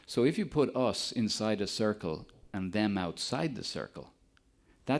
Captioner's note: none